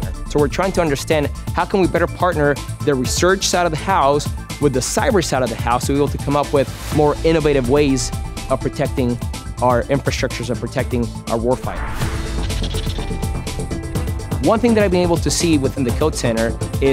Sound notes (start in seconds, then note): 12.2 pencil scratching; 12.3 upbeat music